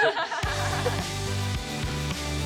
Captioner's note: laughter